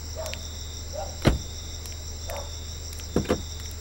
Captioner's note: Door closes; Door opens